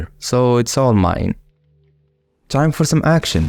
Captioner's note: explosions